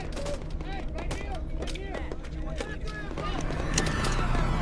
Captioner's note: guns firing; men shouting